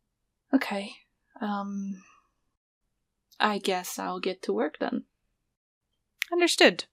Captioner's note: deep breath